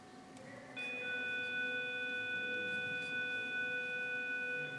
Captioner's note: school bell buzzing